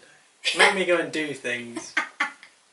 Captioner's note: sassy laughing